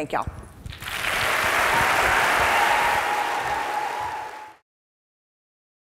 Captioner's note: audience applauding